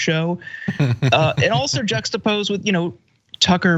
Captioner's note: laugh